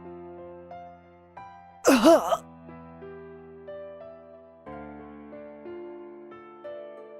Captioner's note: sigh